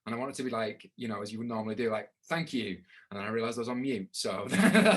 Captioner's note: laughing